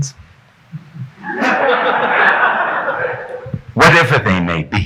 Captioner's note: audience laughing